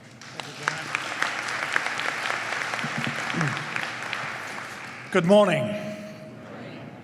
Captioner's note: applause